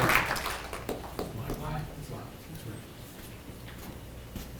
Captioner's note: people clapping